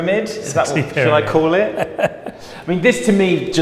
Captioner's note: laughing